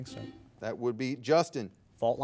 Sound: buzzer beeping

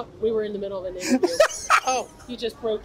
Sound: laughs

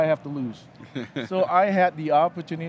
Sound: laughing

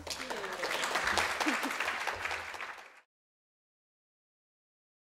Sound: audience clapping

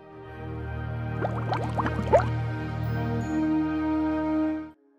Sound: beaker bubbles up

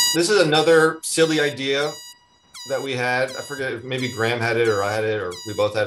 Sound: horn Beeping

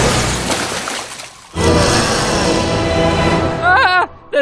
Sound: roar

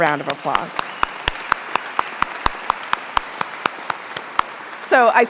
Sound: audience clapping

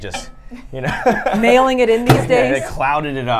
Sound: laughs; microwave door bangs

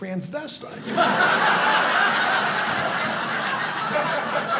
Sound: audience laughing

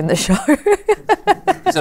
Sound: laughs

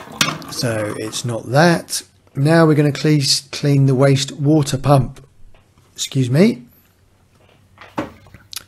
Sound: burps

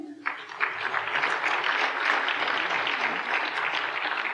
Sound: applause

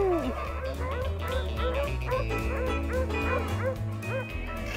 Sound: dogs barking

